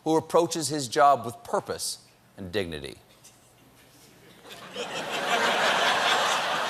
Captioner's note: laughter